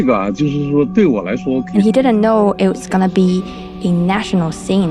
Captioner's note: speaking Mandarin Chinese